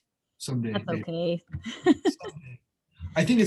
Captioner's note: laughs